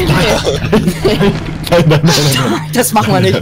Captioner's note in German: lacht